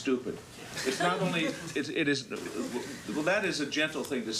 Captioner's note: audience chuckles